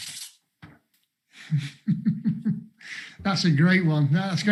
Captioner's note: laughs